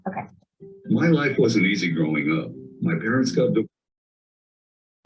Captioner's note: voiceover